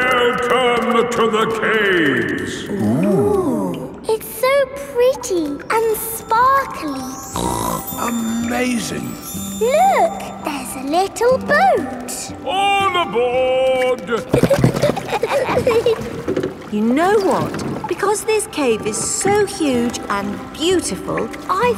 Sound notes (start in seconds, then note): 7.3 snorts; 13.8 giggling